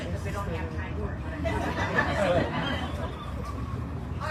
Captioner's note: audience laughs